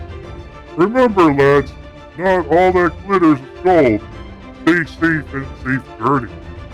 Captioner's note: chuckling